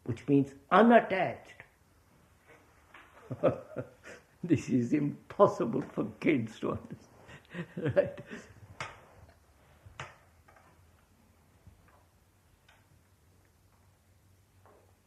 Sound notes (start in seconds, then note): 3.2 laughs